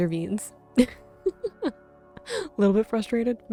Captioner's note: giggling